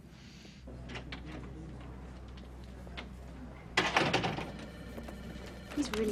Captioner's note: door opening and closing; phone ringing